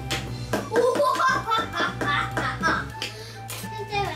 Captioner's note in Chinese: 邪惡笑